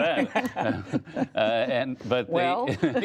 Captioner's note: laughter